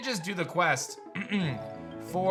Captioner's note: clears throat